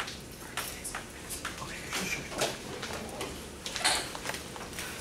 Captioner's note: students whispering quietly